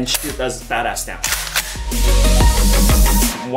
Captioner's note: gun clicking